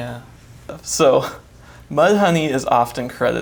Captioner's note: chuckles